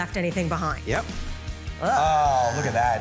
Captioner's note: moaning